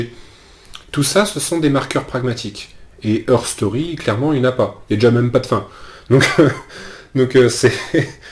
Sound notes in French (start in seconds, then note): 7.7 rires